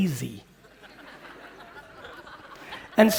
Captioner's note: audience laughing